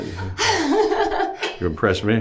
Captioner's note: laughing